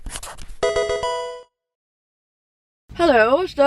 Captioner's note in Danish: blyant skrivning; Pokemon spil lyd